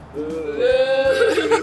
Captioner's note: assorted boos